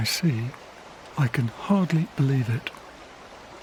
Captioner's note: whispers